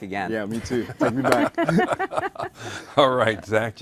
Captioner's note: laughing